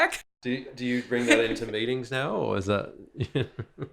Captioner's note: laughs